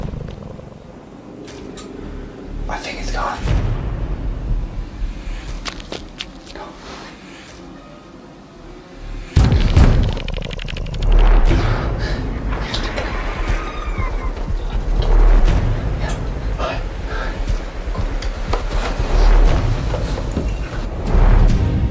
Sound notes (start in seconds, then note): 0.2 footsteps rustling; 5.0 footsteps rustling; 9.7 dramatic music; 18.7 suspenseful music